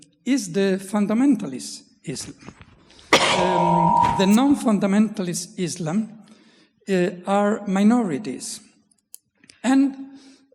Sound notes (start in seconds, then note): 3.2 coughs; 3.2 microphone screeching